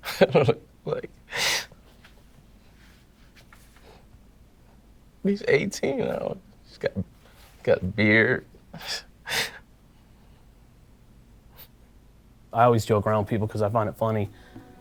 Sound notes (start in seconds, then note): 1.3 John Laughing and Sniffing; 8.8 John Crying